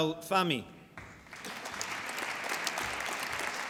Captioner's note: applause